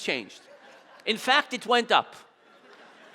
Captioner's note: audience laughing